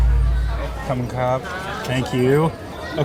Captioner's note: dramatic music; host speaking in foreign language